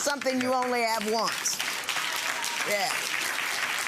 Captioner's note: clapping